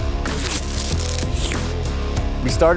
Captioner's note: slurps; plastic rips